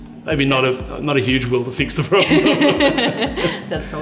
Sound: laughs

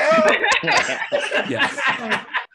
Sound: all laugh

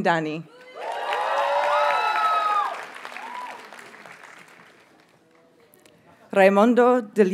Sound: audience cheers and applauds

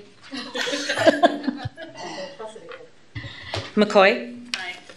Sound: laughter

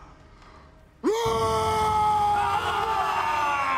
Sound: yells; all yelling

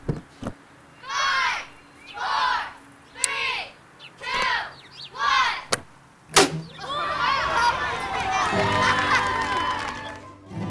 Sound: kids shouting; applause

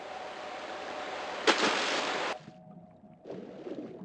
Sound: splash

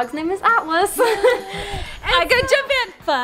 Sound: laughing

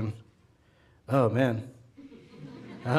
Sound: audience laughing

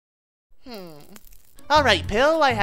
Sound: Pill whimpers

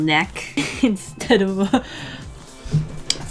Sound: laughs

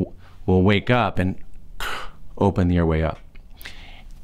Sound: gasps

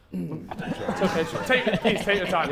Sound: Sidemen laughing

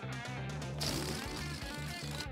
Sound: farting-noise

